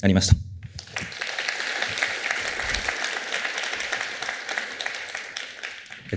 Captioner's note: applause